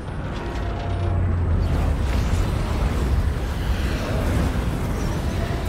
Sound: intense deep sounds

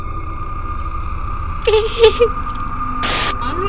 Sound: laughs nervously

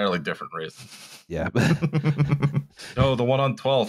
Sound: small laughter

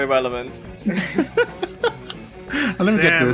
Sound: laughter

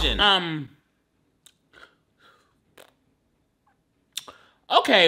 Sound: blowing raspberry

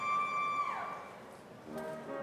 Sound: woman cheering

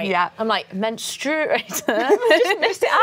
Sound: laughs

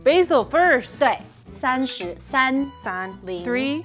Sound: speaking in mandarin

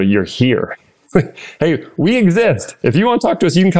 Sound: laugh

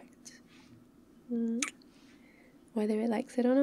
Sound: kiss

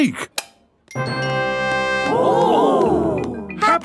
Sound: click

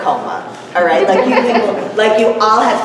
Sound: laughter

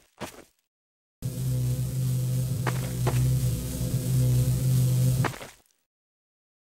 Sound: Combine Energy Shield Buzzes

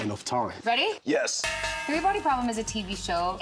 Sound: cowbell clangs

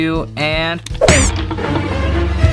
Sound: suspenseful music; banging

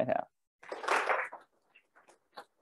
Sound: applause; silence

